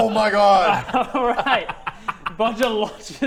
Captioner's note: laughing